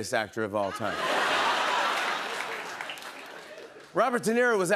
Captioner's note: laughter, applause